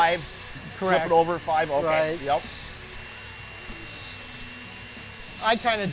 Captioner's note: machine whirring